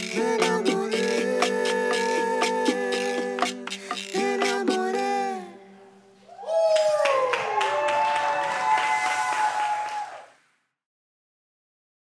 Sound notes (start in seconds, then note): 6.6 applause